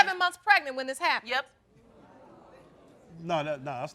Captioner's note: crowd discussing